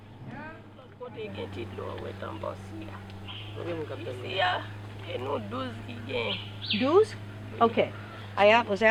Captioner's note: speaking in Creole